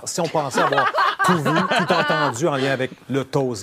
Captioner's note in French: rires